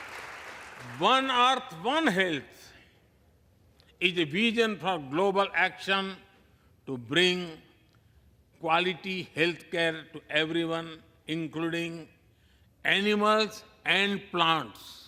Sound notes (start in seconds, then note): 1.9 applause